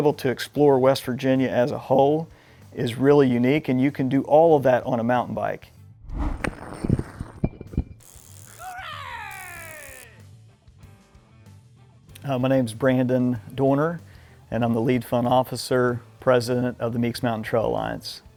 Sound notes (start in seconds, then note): 8.6 yelps